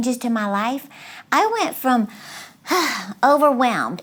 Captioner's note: sighs